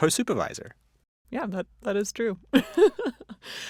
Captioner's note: laughs